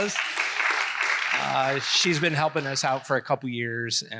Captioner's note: applause